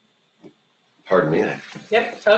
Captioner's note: coughs